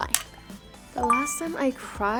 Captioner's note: bell chiming